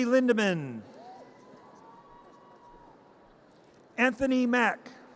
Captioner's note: audience cheers